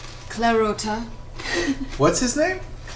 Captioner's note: laughs